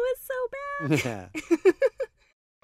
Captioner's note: Barbie giggles